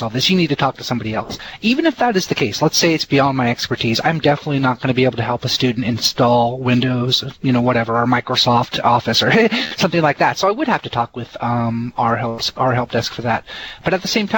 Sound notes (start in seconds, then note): 9.1 heh heh